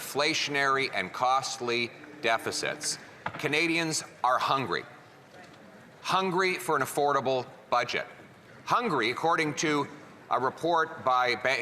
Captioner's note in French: voix de l'interprète